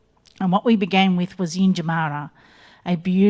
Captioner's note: speaks in Ngunnawal